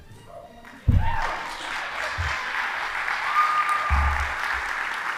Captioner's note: audience applauding